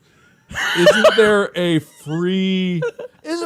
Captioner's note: laughs